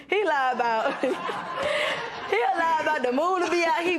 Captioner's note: laughter